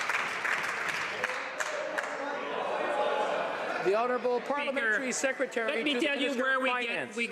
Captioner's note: some Applause